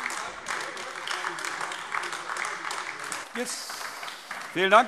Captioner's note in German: Beifall AfD